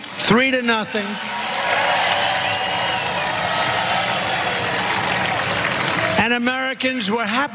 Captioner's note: applause